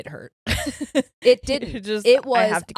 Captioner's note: laughing